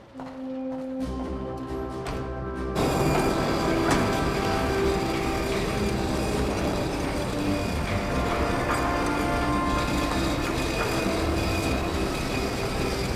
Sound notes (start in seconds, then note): 0.4 uplifting orchestral music; 3.1 whirring